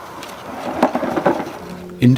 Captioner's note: clattering